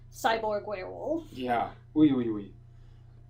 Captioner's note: exasperated sounds